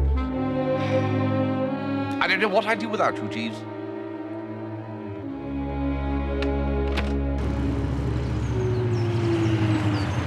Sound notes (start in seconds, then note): 0.7 sighs